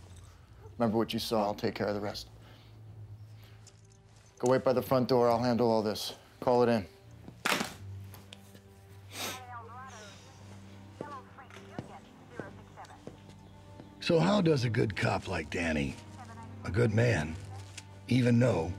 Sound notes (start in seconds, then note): 9.4 police radio chatter